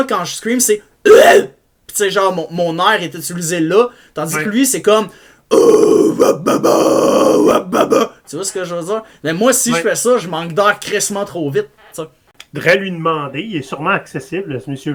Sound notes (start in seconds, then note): 5.5 neanderthal mouth noises